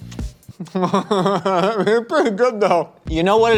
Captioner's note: laughs